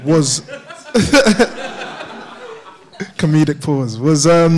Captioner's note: audience laughs